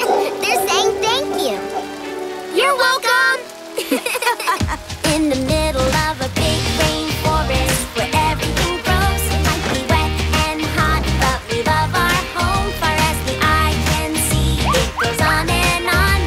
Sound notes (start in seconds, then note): 3.7 giggling